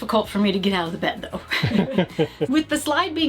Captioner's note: laughing